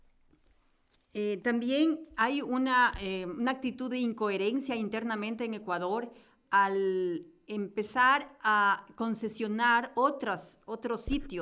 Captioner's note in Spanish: Español